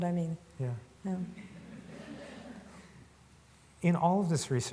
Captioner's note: laughs